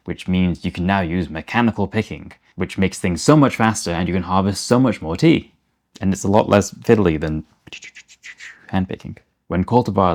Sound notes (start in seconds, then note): 6.8 picking noises